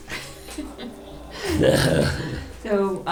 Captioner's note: laughter